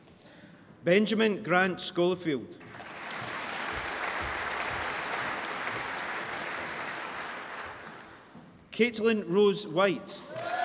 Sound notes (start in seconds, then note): 2.6 applause